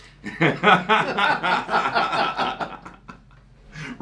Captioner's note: both laugh